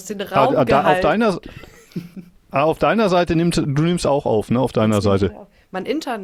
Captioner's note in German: gelächter